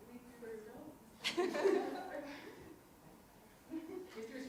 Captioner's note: students laughing